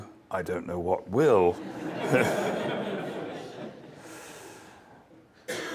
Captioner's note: laugh